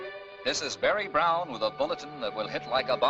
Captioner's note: Barry on radio